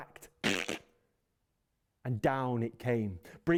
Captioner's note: crackling